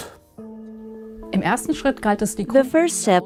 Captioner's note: non-english speech